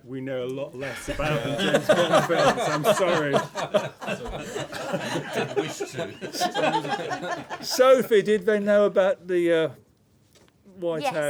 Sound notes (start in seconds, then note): 3.4 laughter